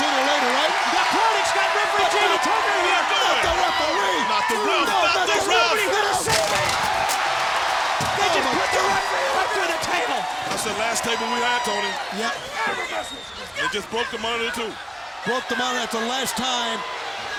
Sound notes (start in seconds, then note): 6.2 plastic snapping; 7.0 audience shouting